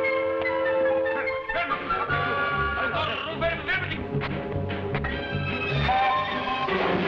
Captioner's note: officers shouting in foreign language